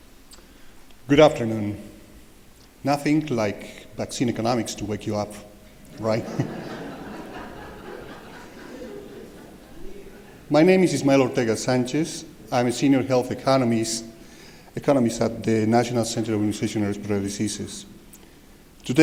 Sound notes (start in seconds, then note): 6.2 laughter